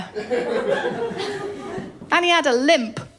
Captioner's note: laughter